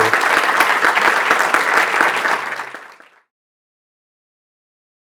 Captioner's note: audience clapping